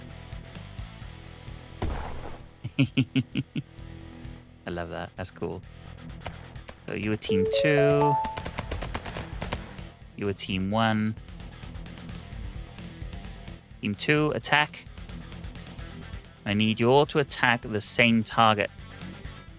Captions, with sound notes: [laughs] I love that, that's cool. So you're a team two. You're a team one. Team two, attack. I need you all to attack the same target.